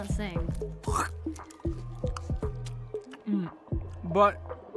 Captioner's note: Mowgli slurps